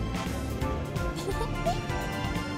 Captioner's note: giggle